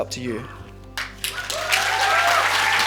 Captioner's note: cheers and applause